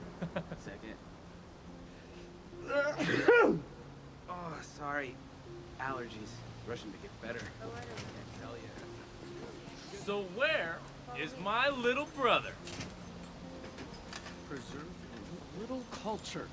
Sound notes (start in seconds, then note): 2.6 laughs; 2.7 sneezes